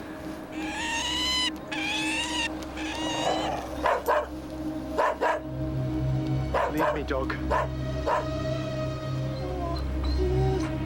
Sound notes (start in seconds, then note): 0.5 cawing; 4.4 growling and barking